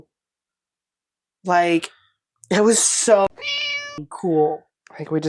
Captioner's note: meow